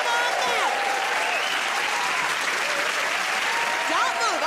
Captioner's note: cheers and applause